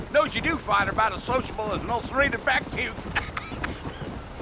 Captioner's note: laughs